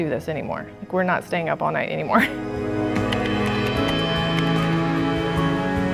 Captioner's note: laughs